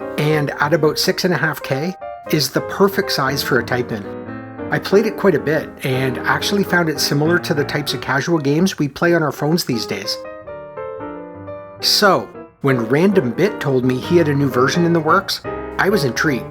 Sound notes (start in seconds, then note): none